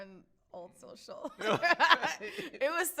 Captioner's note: both laugh